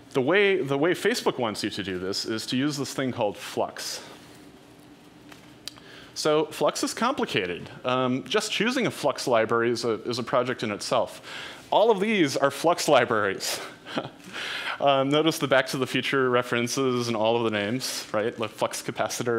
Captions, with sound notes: The way Facebook wants you to do this, is to use this thing called Flux. So Flux is complicated, just choosing a Flux library is a project in itself. All of these are Flux libraries. (chuckles) Notice the "Back to the Future" references in all of the names, right, the Flux capacitor,